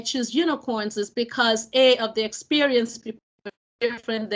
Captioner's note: speech distorting